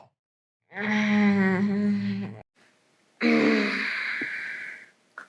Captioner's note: girl groans